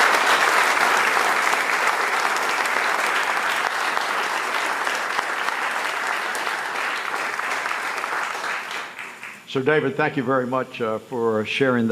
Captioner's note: applause